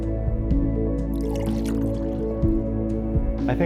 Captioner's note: soft music; coffee pouring; soft music